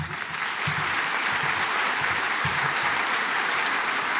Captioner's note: audience applauds